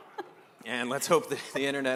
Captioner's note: laughter